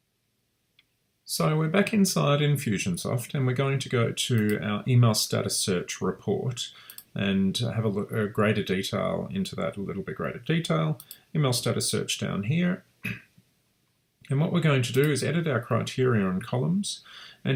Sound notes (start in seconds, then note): 13.0 clears throat